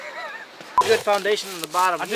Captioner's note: laughs; frame beeping